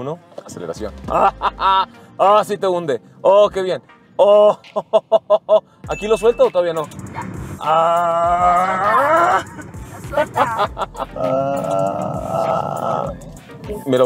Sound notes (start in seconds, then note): 1.1 laughter; 7.5 groaning; 7.5 laughter